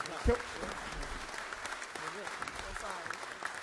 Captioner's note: all clap